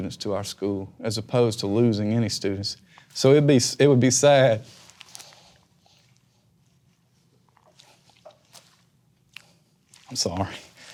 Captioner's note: swallows hard